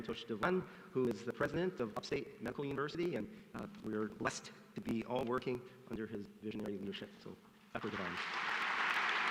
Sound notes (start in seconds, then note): 7.8 applause